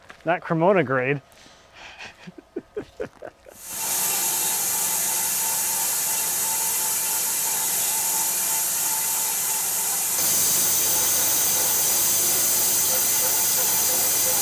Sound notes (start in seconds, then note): 1.8 laughing; 4.4 machinery buzzing